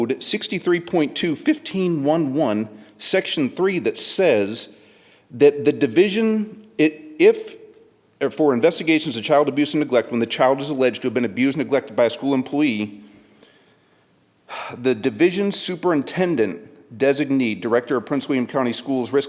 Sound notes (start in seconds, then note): 14.5 sighs